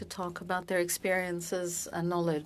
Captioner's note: speaking French